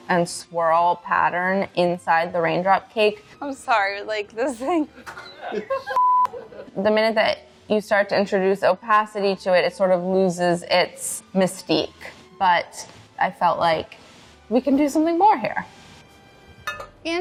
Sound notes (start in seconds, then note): 5.6 crew laughing